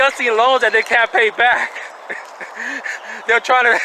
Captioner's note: chuckling